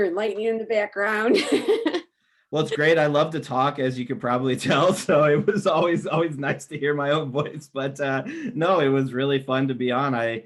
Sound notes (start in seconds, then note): 2.6 laughs